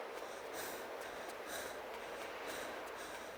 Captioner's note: breathing